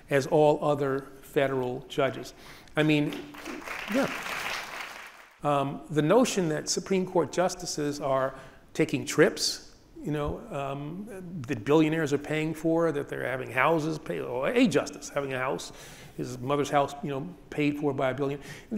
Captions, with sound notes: as all other federal judges. (audience applauds) I mean, yeah. The notion that Supreme Court justices are taking trips that billionaires are paying for, that they're having houses paid... Or a justice having a house, his mother's house paid for by a billionaire.